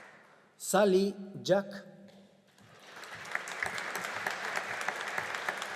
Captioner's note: audience applauding